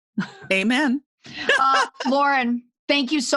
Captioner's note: laughs